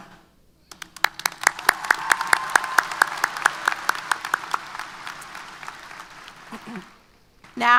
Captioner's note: applause